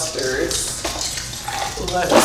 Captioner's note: ornaments jingling